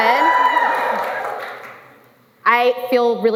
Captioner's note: cheering